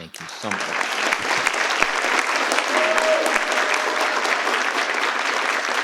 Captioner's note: participants applaud